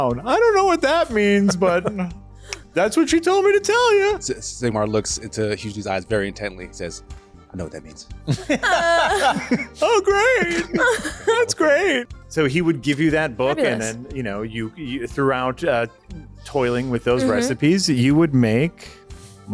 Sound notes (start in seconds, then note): 8.2 laughter